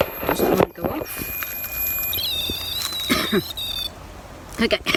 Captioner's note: beeping; coughs